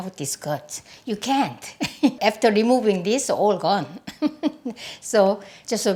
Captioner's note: laughs